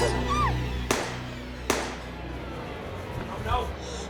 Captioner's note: screaming; gun shots; panting heavily